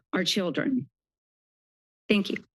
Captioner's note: pause